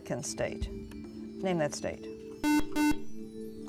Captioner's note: buzzer